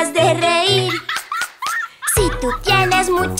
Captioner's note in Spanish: Risas